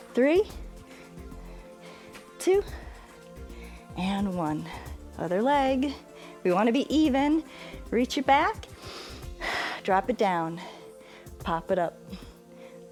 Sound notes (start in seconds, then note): 8.8 inhales and exhales